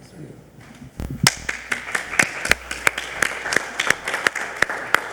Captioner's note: group applauds